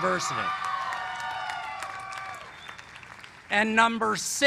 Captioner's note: cheers and applause